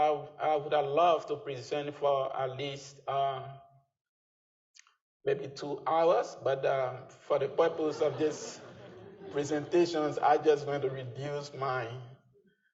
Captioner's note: laughter